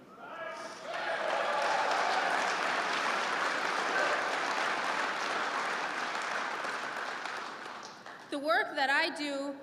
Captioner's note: applause